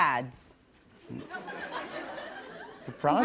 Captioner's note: laughter